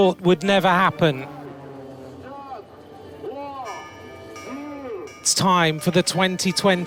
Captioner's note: jets buzzing